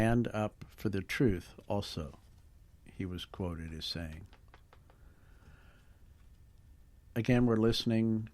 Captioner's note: pause